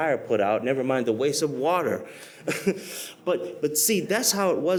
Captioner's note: laughs